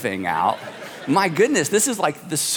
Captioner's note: congregation laughing